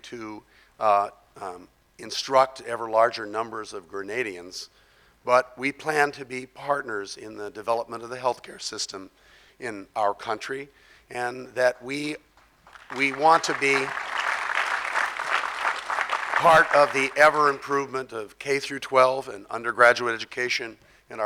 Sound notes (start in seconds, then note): 12.4 audience clapping